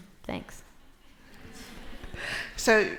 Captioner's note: laughter